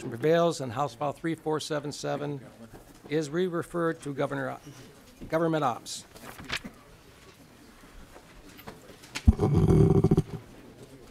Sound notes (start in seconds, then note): 5.7 chorus of ayes; 9.3 gavel